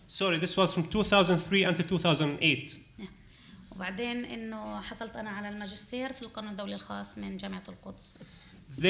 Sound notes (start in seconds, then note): 3.9 speaking arabic